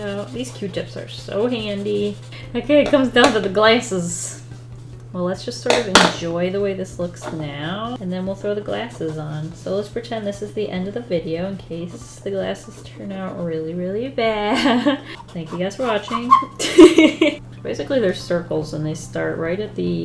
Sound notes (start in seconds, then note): 16.8 laughs